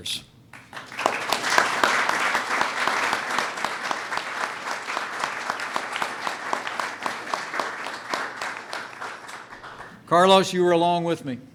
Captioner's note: applause